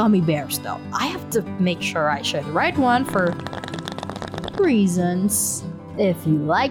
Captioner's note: bong sound